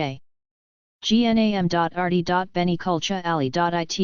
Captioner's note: Italian